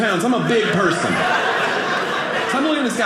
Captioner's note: audience laughing